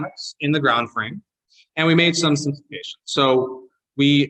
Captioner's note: audio distortion